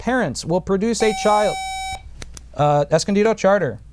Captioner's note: buzzer